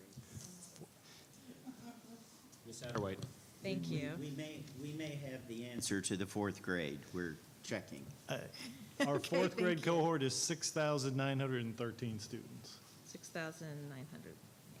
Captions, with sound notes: (muffled background chatter) - Ms. Satterway. - Thank you. - We may have the answer to the fourth grade. We're checking. - (laughing) Okay thank you. - Our fourth grade cohort is 6,913 students. - 6,913 okay.